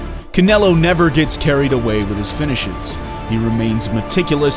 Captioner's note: bell rings